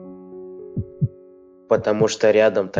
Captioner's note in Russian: учащённое сердцебиение у девушки